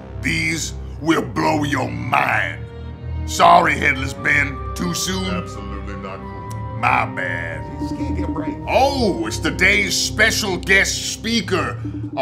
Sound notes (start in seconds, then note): 7.8 phone vibrates